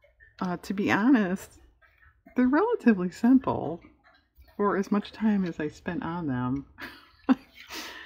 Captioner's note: laughs